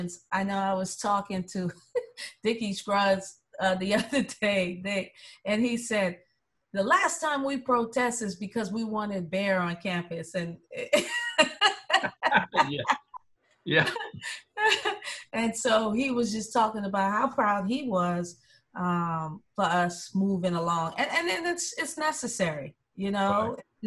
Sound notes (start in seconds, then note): 14.3 laughter